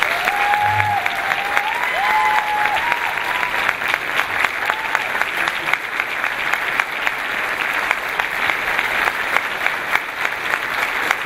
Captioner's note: clapping